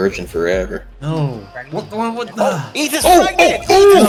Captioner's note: stammers